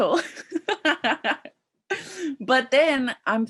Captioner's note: laughing